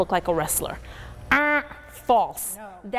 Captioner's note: mimics buzzer